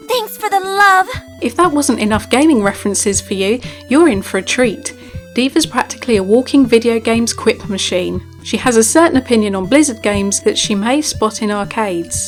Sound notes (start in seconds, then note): 1.6 voiceover